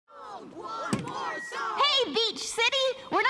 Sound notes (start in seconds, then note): 0.1 audience chanting